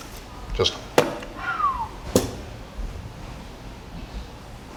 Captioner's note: whistles